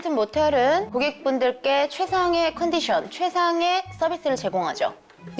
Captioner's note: with a professional voice